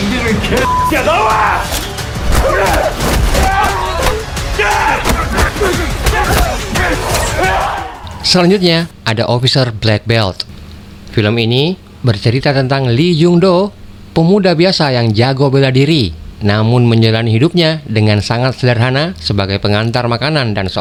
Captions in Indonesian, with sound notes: [berteriak] Selanjutnya ada officer Black Belt. Film ini bercerita tentang Lee Jungdo, pemuda biasa yang jago bela diri, namun menjalani hidupnya dengan sangat sederhana sebagai pengantar makanan dan